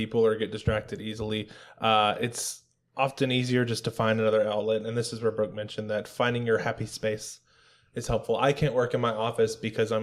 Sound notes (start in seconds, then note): none